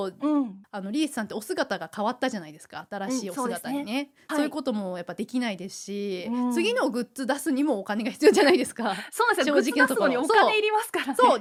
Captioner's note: laughs